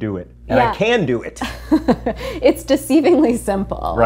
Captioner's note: laughs